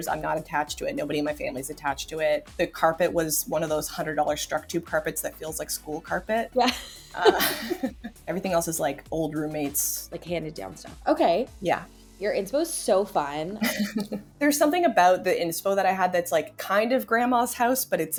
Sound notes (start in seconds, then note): 8.2 people laughing; 13.6 person laughing